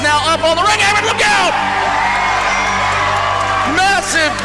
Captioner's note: crowds cheering